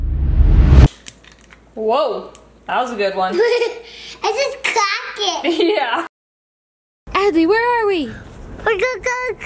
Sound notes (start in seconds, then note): 3.4 laughs